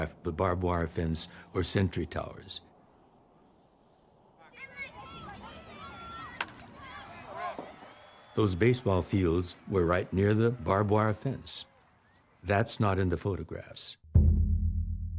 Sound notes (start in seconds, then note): 5.0 kids chattering; 6.2 ball thuds; 14.9 pensive music